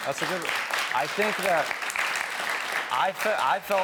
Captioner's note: audience applauding